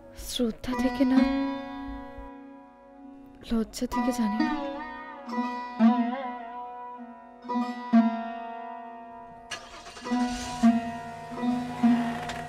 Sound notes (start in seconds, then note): 9.4 car engine starts